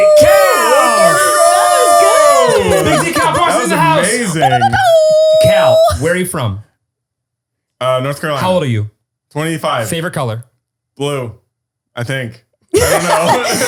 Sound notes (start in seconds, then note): 3.1 exclaiming